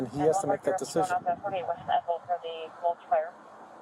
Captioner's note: radio chatter